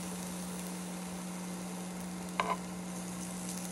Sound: the sound of grilling makes my mouth watering

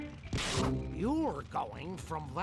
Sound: none

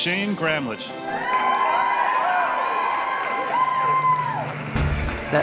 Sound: audience applauding; audience cheering; ambient music

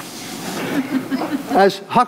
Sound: audience laughs

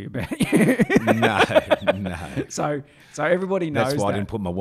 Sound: laughing

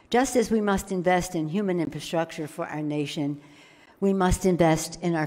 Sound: none

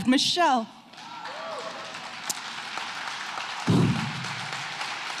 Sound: audience applauding

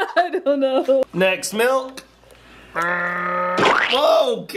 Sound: laughs; growls

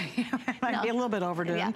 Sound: laughter

